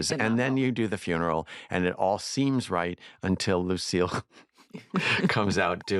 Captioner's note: chuckles